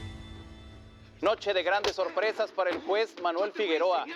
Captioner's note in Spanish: voz en la t.v